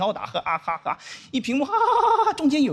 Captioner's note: laughing